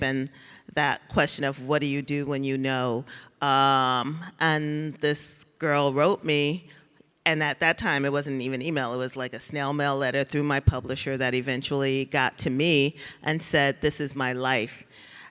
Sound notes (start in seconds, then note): none